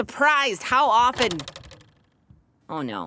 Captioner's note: click